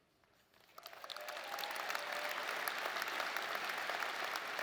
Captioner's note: audience applauding